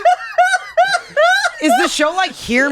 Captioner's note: laughs